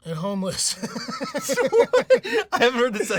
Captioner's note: laughing